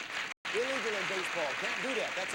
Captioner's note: audience applauding